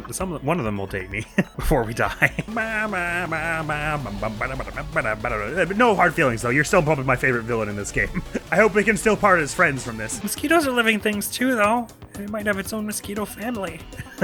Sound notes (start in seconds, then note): 2.3 humming